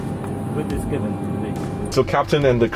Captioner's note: chattering